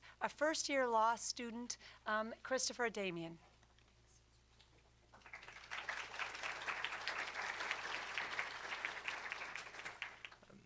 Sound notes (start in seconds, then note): 5.1 applause